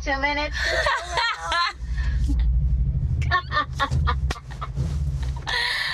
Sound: laughing

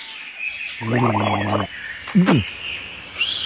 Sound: gargling; whistling, snoring

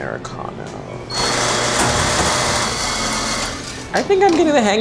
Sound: espresso machine grinding

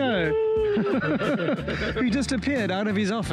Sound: sarcastically cheers

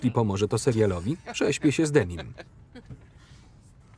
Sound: laughing

